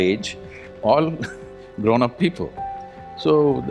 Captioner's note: laughs